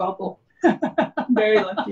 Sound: laughs

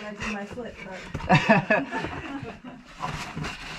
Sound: laughing

